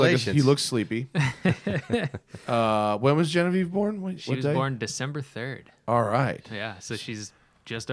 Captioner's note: laughes